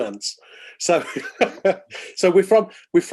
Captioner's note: laughing